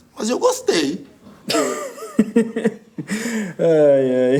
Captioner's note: laughter